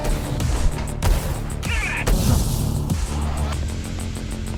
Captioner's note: energetic music; gunshots cracking